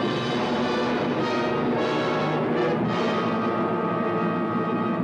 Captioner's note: dramatic music; plane engines roaring